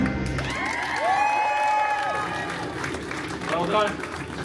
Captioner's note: guests cheering and applauding